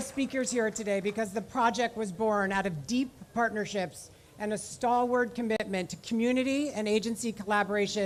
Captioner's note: applause